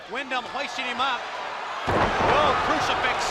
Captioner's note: body thudding